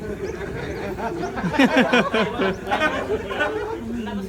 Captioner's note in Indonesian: Jama'ah tertawa